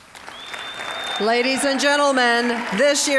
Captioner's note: cheering, applause